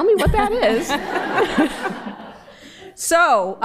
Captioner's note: laughter